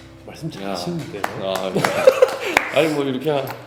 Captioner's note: clap Clap Clap